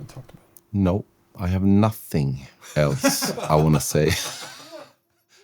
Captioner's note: laughter